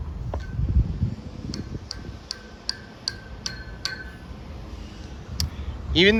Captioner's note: banging on rails